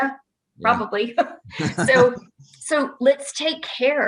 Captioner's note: laughing